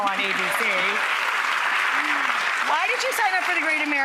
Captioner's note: audience applauding